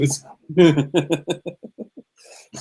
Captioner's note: laughter